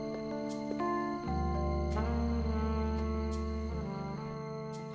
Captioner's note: doorbell rings